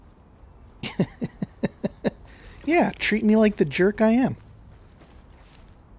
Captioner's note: laughter